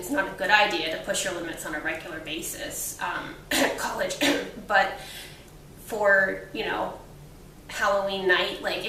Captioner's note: cough